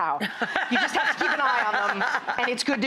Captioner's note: laughter